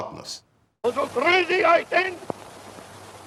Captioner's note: speaking German